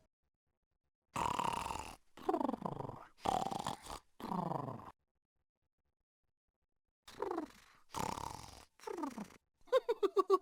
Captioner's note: mr tickle snoring; mr tickle chuckling